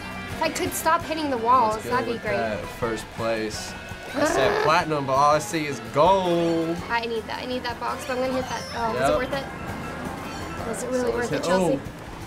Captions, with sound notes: - If I could stop hitting the walls, that'd be great. - Looks good with that. First place. - (groans) - I said platinum, but all I see is gold. - I need that. I need that box. But I'm gonna hit that. - Yep. - Oh, was it worth it? Was it really worth it, Chelsea? - All right, so let's hit-- oh.